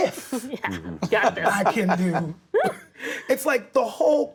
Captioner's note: Hugh laughs